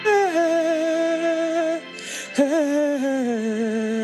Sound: person humming

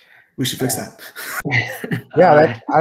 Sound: laughs

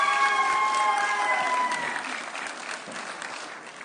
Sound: audience cheering

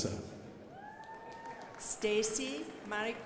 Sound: crowd applauding

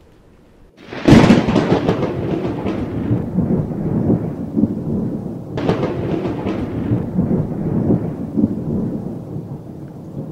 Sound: thunder and Lightening cracking

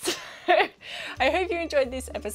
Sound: laughs

